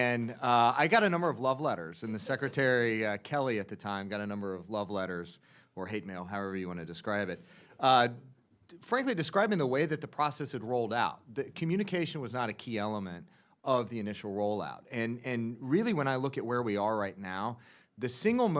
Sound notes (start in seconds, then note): 2.1 laughter